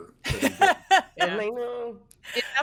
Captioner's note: laughs